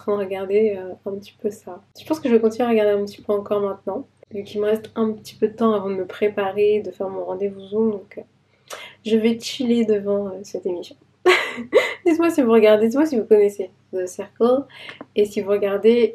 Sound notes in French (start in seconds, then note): 11.2 rires